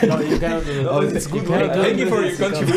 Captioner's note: all laugh